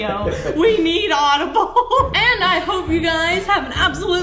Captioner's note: laughs